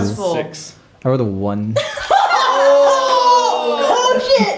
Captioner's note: yells